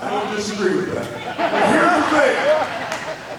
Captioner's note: audience laughing